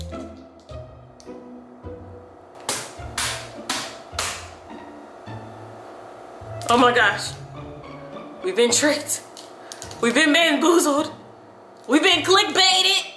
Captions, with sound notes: (bangs) Oh my gosh. We've been tricked. We've been bamboozled. We've been clickbaited.